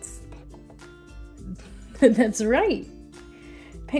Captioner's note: laughing